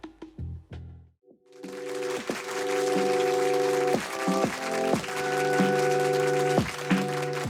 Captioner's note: applause, with instrumental music playing in the background